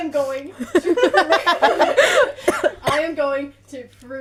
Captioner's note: laughter